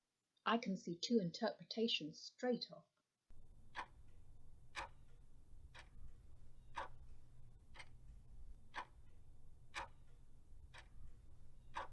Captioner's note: clock ticking